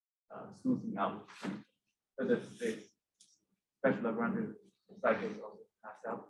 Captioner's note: murmurs